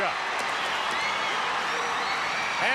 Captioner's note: crowd cheers